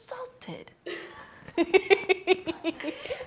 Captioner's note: laughs